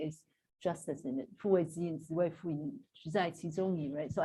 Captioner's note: non-english speech